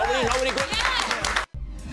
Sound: cheering and clapping

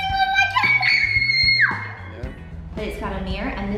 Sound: screaming

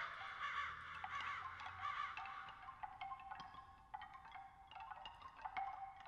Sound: bamboo chimes

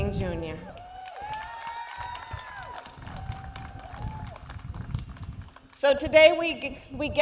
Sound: applause

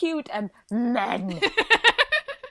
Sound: laughs

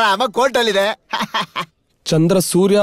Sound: laughs

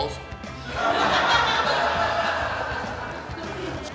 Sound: hahaha

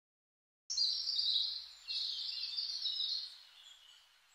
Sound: birds chirping

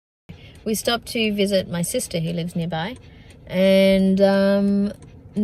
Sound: car blinker ticks and tocks

